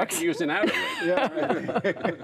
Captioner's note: laughter